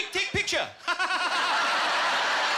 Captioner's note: laughing maniacally; laughter